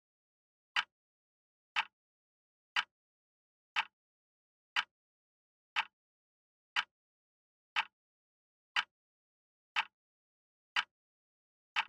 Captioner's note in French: tic tac d’horloge